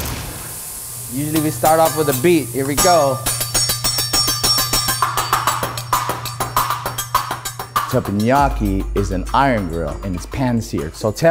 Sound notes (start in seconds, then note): 0.0 hibachi sizzles; 2.8 spatulas clanging rhythmically